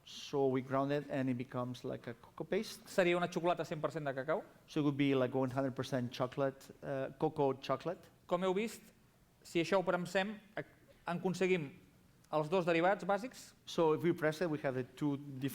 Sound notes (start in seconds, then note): 3.6 non-english speech; 10.1 non-english speech